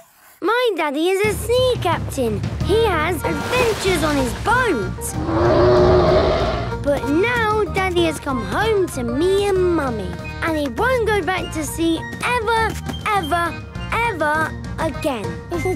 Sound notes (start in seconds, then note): 5.1 loud roar